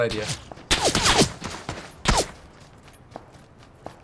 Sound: bullets whizzing

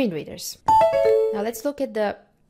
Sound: NVDA program closing sound

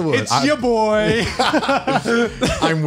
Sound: laughs

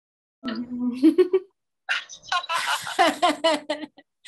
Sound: both laughing

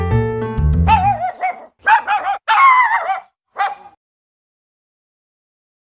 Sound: barking

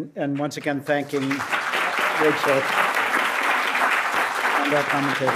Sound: audience applauds

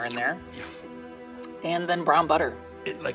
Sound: Cookie Monster slurping

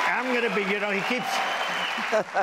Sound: audience cheering

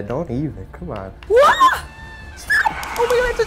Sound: screeching

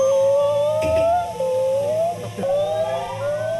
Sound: he is speaking monkey language

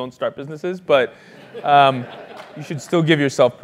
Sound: laugh

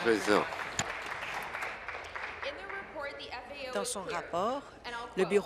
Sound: applause

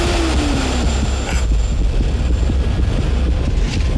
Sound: intense heart pounding

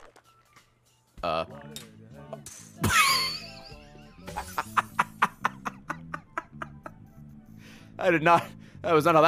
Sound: laughs

